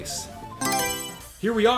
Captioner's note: Mario Selection Sound